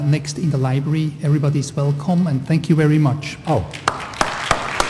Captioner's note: applause